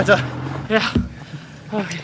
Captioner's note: moan